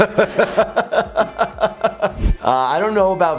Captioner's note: laughter